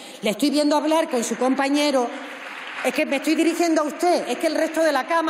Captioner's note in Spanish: Aplausos